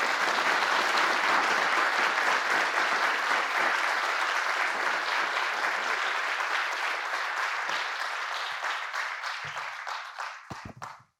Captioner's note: applause